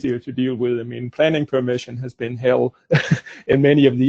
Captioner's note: laughs